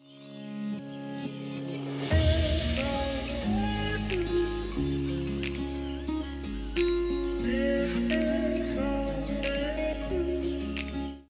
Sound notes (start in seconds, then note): 0.2 light techno music; 2.9 fingers snapping